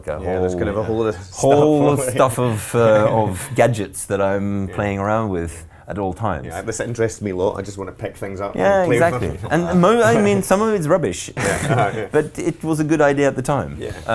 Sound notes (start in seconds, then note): 9.6 laughing